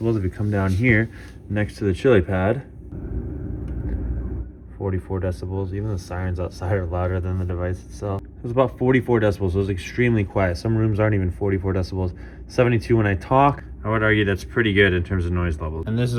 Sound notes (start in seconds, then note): 2.8 Chilipad humming